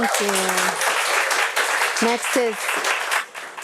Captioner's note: audience applauds